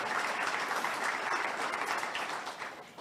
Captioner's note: audience applauds